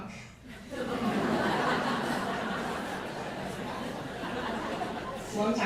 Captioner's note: laughter